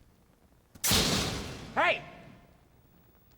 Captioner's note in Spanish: golpe